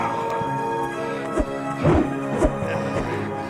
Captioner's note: wooshing